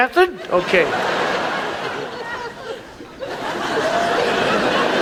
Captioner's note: audience laughs